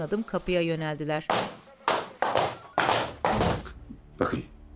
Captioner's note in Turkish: Ayak sesleri